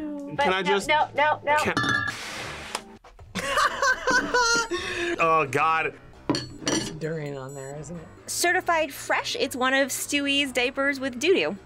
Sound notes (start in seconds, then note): 3.4 laughs